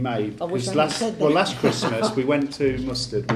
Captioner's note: laughs